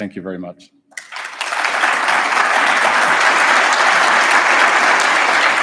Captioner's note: audience applauds